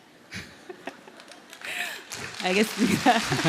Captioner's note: questioner Laugher